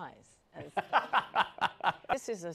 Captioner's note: laughs